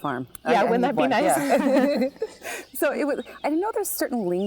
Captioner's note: laughs